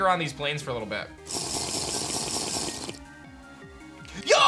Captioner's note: drinking sound